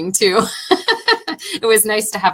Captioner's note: laughing